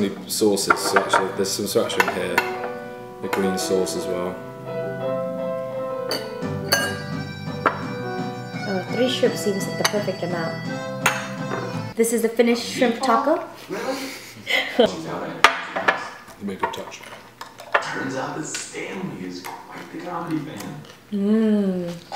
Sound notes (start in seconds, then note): 13.6 laughs